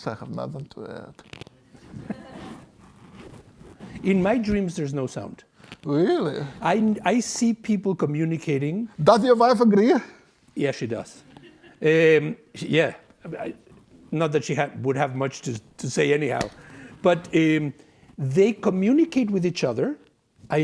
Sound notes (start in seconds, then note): 1.8 class laughs